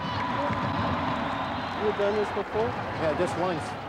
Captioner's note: cheering